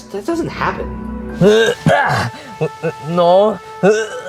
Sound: Luigi grunting

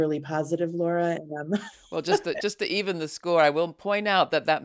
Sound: laughs

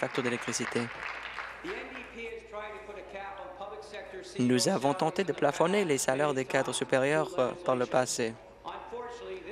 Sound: applause

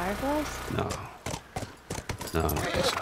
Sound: hoofbeats; horse brays

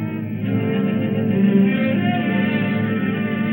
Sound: none

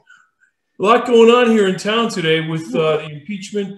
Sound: laughs

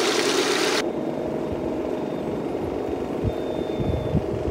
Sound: whooshing

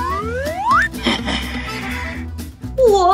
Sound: skull Laughing

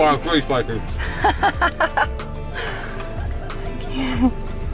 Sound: laughing

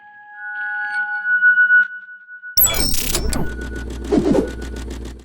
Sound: electronic buzzing

